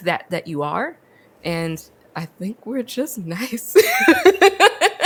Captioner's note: laughs